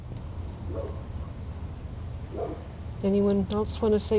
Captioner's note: dog barking